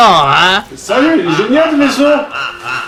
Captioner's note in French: Rire sardonique